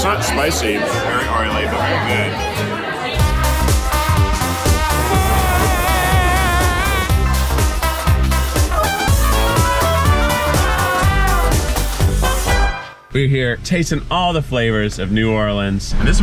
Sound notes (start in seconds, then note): 4.9 yelling; 5.0 upbeat music